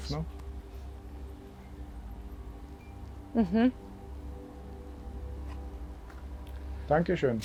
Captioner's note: wind in the background